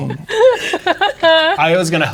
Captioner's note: players laughing